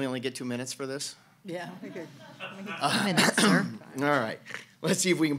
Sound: laughing

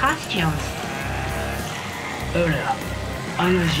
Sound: growling

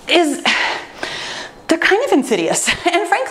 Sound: sighs

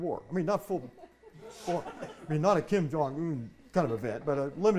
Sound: audience laughing

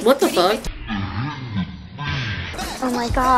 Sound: voice distortion

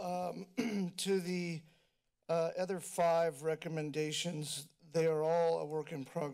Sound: clears throat

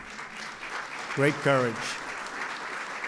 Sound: applause

